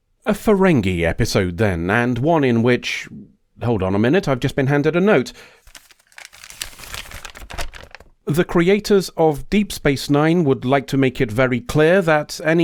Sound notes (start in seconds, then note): 5.6 paper unfolding